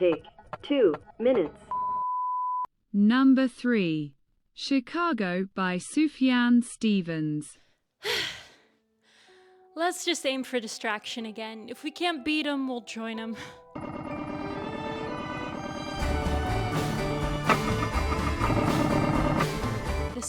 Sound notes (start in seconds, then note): 8.0 deep sigh; 14.3 orchestral pop music